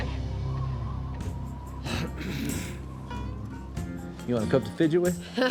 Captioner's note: wind howling